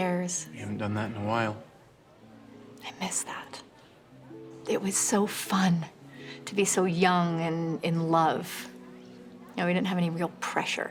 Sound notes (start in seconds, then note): none